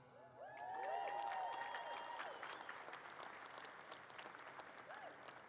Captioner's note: audience cheers and claps